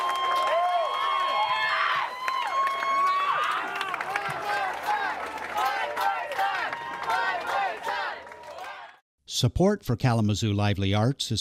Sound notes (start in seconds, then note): 4.3 crowd